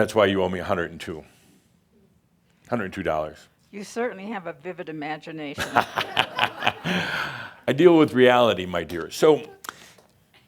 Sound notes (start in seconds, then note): 5.6 Adamus laughs